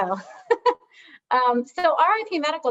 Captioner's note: chuckles